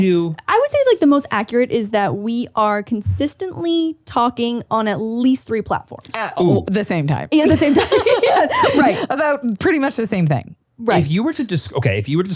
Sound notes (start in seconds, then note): 7.4 laugh